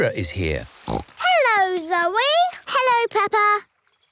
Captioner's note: snorts